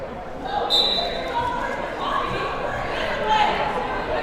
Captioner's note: whistle blows